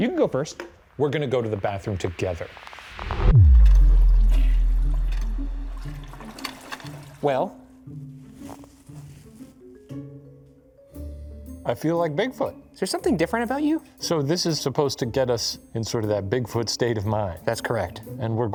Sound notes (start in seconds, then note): 3.4 transition whooshing; 3.4 water flowing